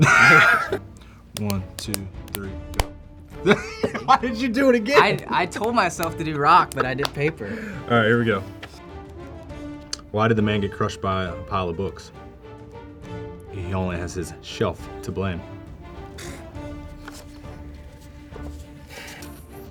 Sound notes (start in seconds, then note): 0.0 both laugh; 3.4 laughing